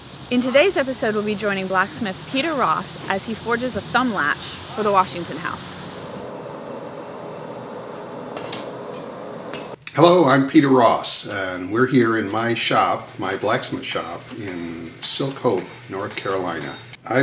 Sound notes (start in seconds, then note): 6.0 sound of furnace fire and metal tools in background